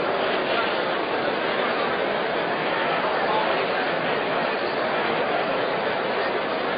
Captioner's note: random conversation